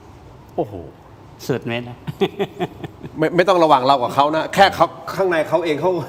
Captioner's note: laughter